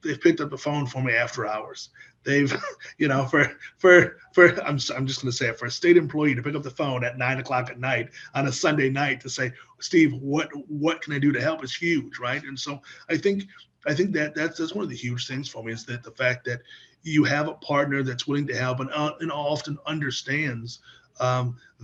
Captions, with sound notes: they've picked up the phone for me after hours. (laughs) I'm just going to say it. For a state employee to pick up the phone at nine o'clock at night on a Sunday night to say, "Steve, what can I do to help," it's huge, right? And so I think that's one of the huge things for me, is the fact that you have a partner that's willing to help, and often understands